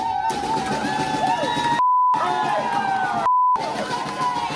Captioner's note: cheers